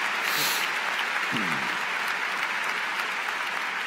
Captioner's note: cheers & Applause